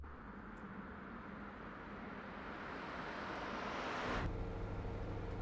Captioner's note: soft whoosh of night traffic